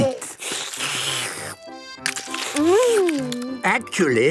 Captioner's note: slurping